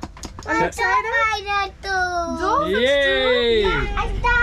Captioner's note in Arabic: يتحدث الهولندية